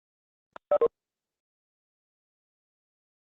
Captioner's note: beeping